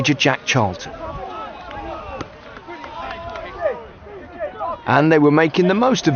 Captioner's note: players chattering